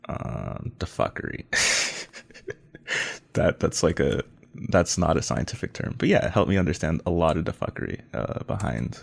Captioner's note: laughs